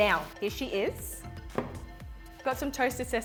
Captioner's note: plate thuds